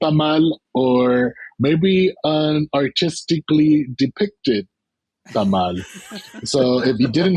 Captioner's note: laughter